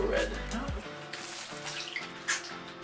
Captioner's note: splash